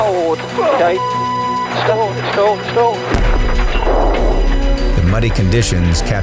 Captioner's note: beep